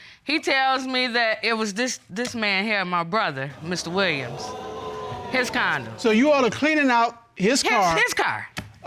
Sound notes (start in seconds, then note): 3.5 audience exclaims